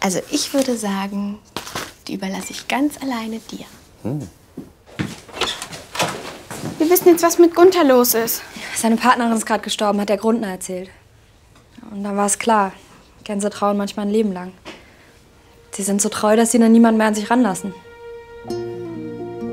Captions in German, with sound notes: Ich würde sagen, die überlass ich ganz alleine dir. Hm. (Tür wird geöffnet.) Wir wissen, was mit Gunther los ist. Seine Partnerin ist gestorben, hat der Grundner erzählt. Da war's klar, Gänse trauern manchmal ein Leben lang. Sie sind so treu, dass sie niemand mehr an sich ranlassen.